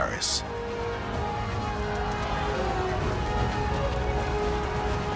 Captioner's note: crowd cheers